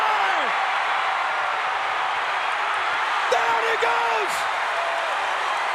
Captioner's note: applause